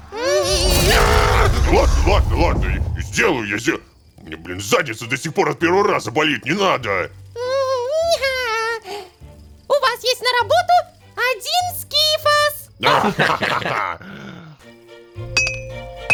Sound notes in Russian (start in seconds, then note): 12.9 Общий смех